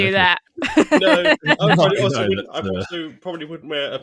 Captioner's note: laughs